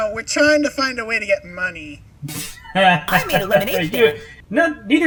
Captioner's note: laugh of superiority